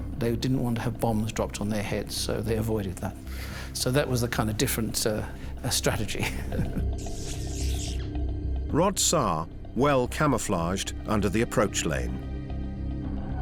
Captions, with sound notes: They didn't want to have bombs dropped on their heads. So, they avoided that. So that was a kind of different strategy. [chuckles] [electrical crackling] Rod Saar, well camouflaged under the approach lane.